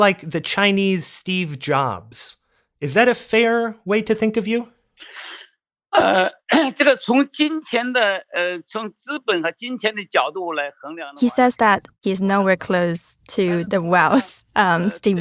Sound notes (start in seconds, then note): 8.8 speaking Mandarin